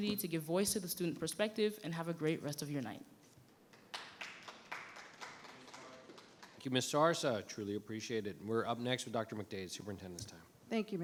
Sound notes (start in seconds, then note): 3.8 audience applauding